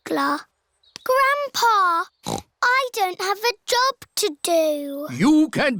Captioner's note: snorts